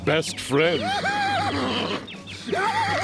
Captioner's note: laughing